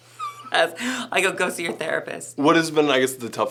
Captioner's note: laughing